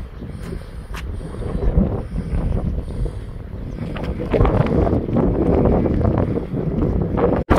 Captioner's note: wind sound